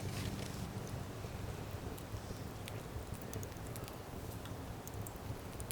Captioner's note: bonfire crackling and popping